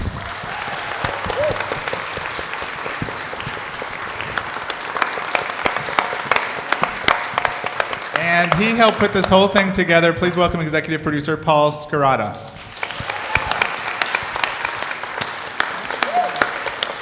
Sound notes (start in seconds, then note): 0.1 audience applauding; 4.5 cast applauding; 12.1 audience and cast applauding